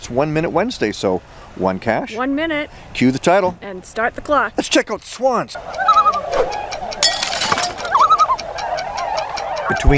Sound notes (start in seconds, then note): 5.2 swans honking